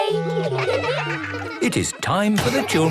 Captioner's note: children giggling